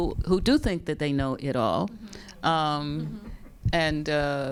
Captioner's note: all laughing